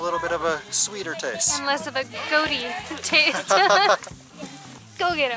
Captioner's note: laughter